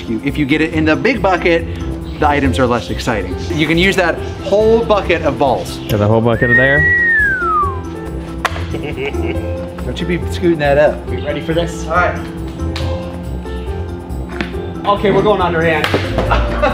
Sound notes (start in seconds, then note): 6.2 whistling; 8.6 chuckling; 14.3 ball thumping; 16.1 group laughing